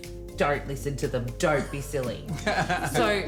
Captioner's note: laughing